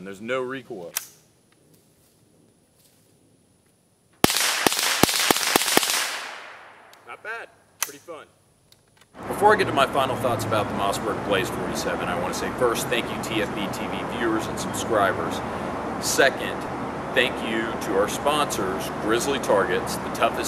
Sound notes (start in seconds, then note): 4.2 gun fires